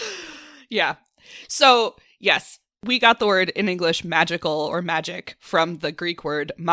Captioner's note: makes ghostly “woooOOOooo” sound; laughs